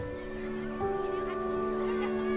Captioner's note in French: rires